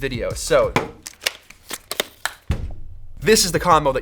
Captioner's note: clicking sounds